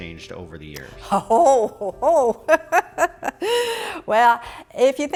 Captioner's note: laughing